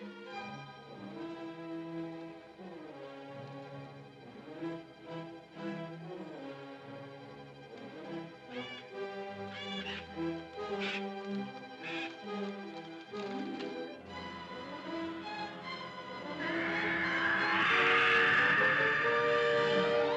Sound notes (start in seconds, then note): 0.1 ominous music; 9.5 animal squawks; 13.0 suspenseful music; 16.2 animal screeches; 16.3 suspenseful music